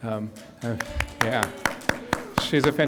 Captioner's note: audience applauds